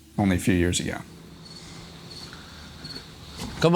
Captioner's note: crickets chirping